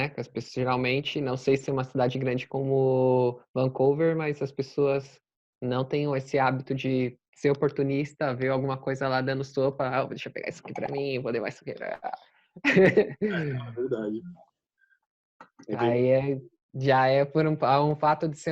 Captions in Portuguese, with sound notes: Geralmente, não sei se em uma cidade grande como Vancouver. Mas as pessoas não tem esse hábito de serem oportunistas, ou verem algo sem proteção, E colocam as mãos se apoderando indevidamente. é verdade (risos) Já é um fato